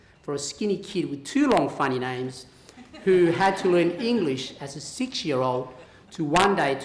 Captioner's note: laughter